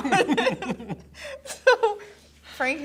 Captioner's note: both laugh